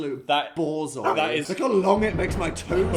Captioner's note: dog barking